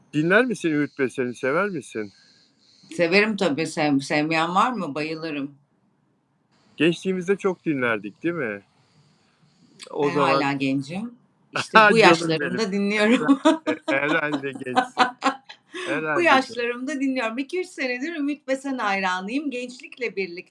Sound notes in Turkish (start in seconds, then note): 13.1 kahkaha